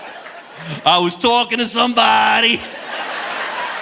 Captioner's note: audience laughing; chuckles; audience laughing